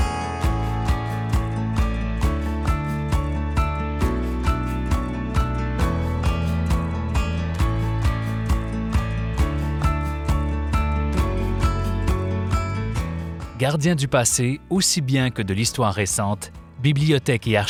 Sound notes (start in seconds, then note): 14.1 speaking French